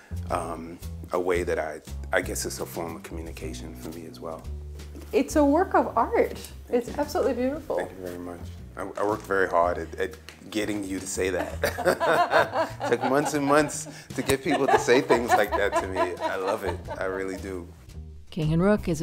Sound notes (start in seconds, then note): 11.2 laughing